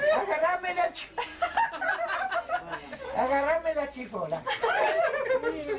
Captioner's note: laughs